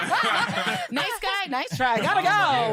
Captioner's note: laughter